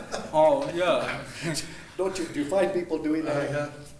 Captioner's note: laughing